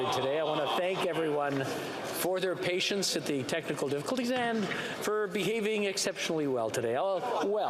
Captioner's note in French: voix de l'interprète